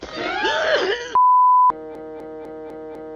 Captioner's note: bars and tone